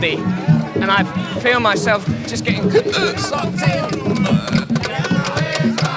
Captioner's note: choked up sound